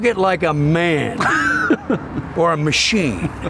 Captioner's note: laughing